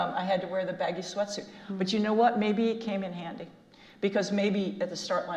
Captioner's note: none